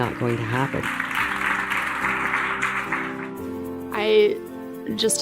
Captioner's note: attendees applauding